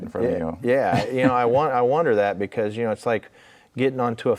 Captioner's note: laughing